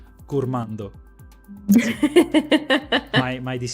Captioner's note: laughs